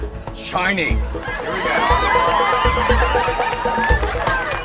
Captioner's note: audience laughing; thrilling music continues